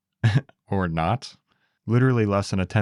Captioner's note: laughs